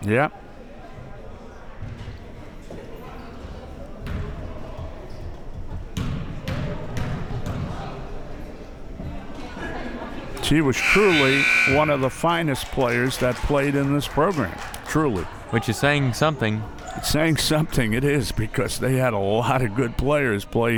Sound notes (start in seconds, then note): 10.7 buzzer